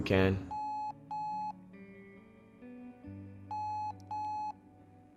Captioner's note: cell phone beeping